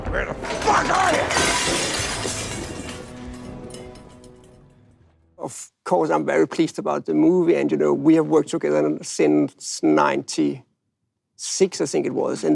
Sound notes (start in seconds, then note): 0.4 dishes crash